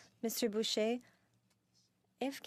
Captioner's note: speaking in French